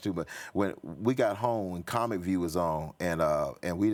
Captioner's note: none